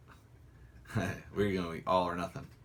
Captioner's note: laughs